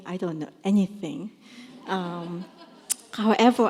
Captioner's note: laughter